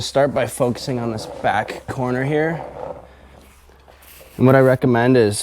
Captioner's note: seat swishing